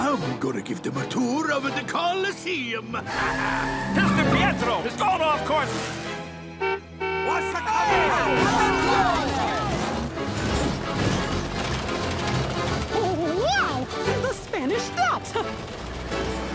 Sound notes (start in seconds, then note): 6.2 horn honking; 7.6 all clamoring